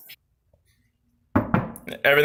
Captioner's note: knocking on door